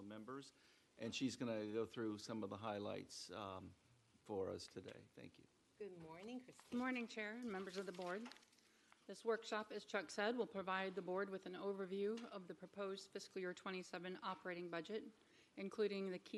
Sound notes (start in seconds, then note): none